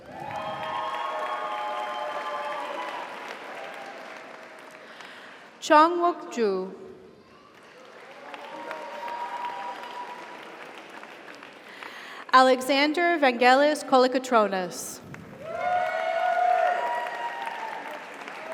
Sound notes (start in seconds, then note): 0.0 audience cheers; 0.0 audience applauds; 7.3 audience applauds; 7.8 audience cheers; 15.2 audience applauds; 15.3 audience cheers